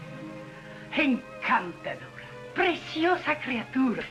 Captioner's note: speaking spanish